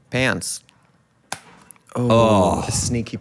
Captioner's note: plastic snaps